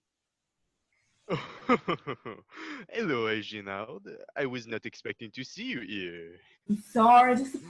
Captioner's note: French accent